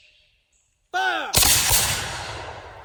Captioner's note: 3 loud shots